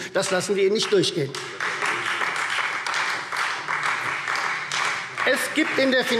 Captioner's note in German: Beifall Freie Demokraten